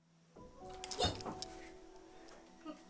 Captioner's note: shrieks